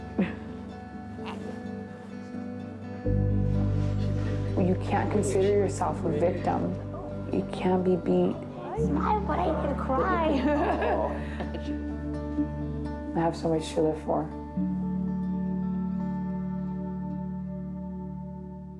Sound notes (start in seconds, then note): 1.1 laughs; 10.9 laugh; 15.2 calm instrumental music